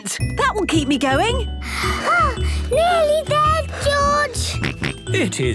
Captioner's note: panting; snorts